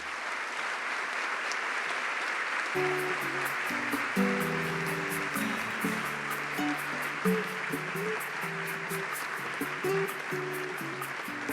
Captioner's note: applause